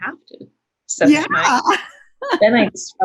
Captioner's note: laughs